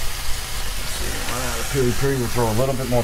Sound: sizzling

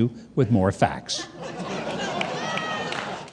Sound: audience laughing

